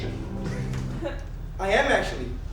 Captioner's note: snap